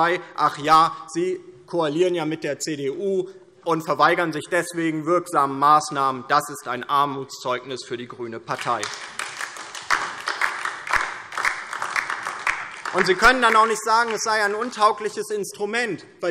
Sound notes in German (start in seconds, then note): 8.5 Beifall DIE LINKE